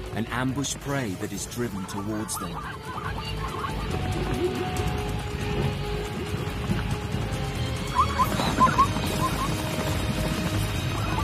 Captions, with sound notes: and ambush prey that is driven towards them. (dramatic music) (zebras neigh)